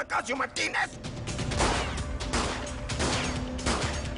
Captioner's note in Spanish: Disparos